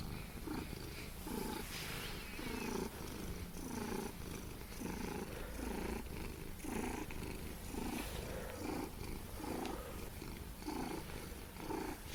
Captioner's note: Frank purrs loudly